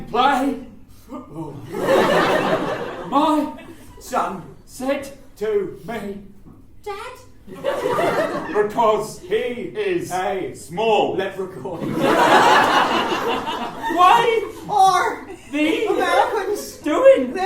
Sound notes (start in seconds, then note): 6.9 kid’s voice